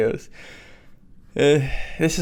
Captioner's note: sigh